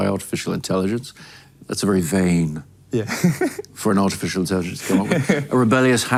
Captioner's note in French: rires